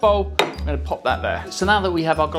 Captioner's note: knocking noise